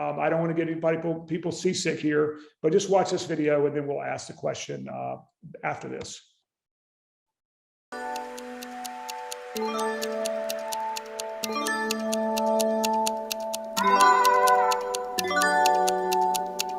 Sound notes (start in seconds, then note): 7.9 gentle music; 7.9 time ticking